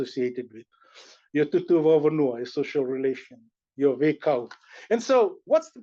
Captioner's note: non-english